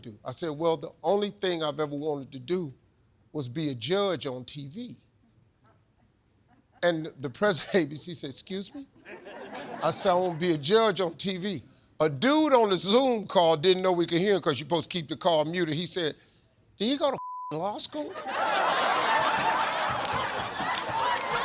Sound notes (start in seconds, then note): 9.0 audience laughs; 17.1 beep; 18.0 audience laughs